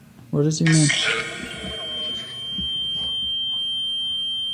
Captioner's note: REM Pod ringing